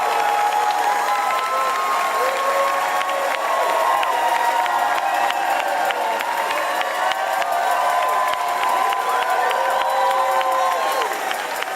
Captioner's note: applause and cheers